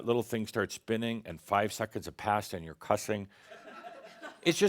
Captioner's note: some chuckles